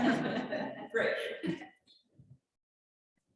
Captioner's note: chuckling